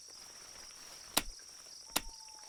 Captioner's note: hitting Flashlight